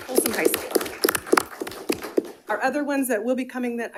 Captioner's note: attendees applauding